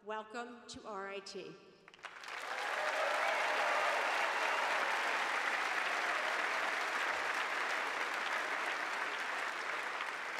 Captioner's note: cheers and applause